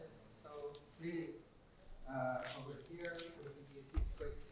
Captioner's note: speaking faintly